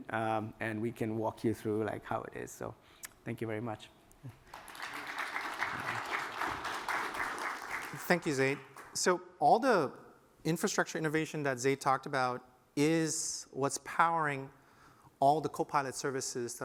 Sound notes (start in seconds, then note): 4.4 applause